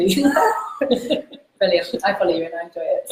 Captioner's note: laughs